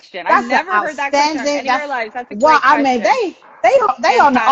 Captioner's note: chattering